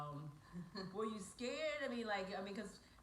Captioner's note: female chuckles